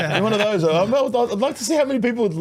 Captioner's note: laughing